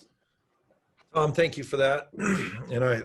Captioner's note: clears throat